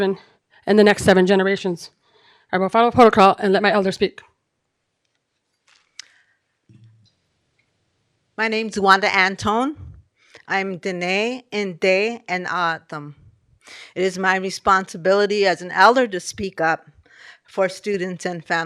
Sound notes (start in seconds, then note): 11.4 speaking foreign language